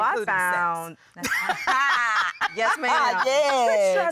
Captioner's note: laughing